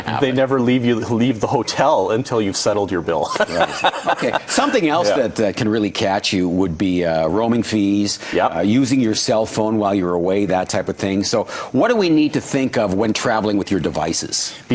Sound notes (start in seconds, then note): 3.3 laughs